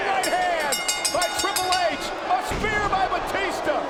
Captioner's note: bell rings